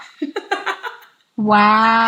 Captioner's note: laughs